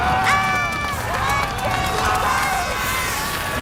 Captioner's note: crowd shouts